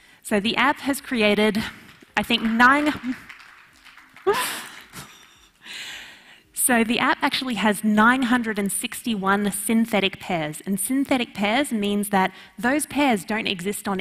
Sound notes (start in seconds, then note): 1.6 audience clapping; 4.2 laughs